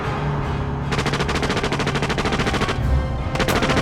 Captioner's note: gunshots banging